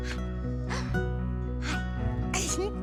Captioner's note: gasps; giggles